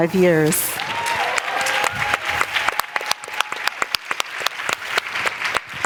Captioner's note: applause